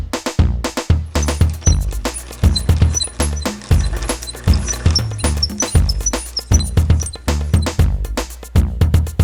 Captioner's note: squeaky crank fast